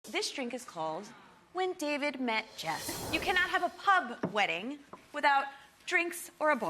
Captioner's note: none